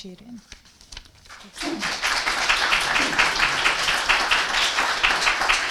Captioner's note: audience applauding